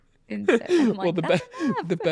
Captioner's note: laughs